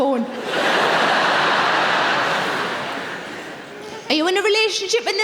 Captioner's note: audience laughing